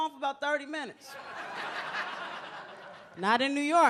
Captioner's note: audience laughs